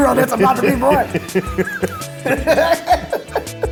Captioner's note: laughing; upbeat music